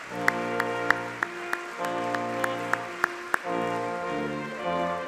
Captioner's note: audience clapping